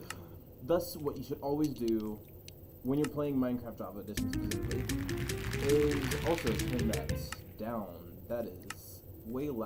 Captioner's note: jingle of chest opening